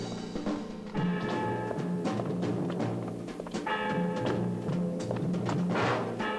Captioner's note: resolute music continues; bell tolling